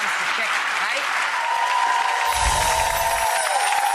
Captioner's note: audience cheering; chiming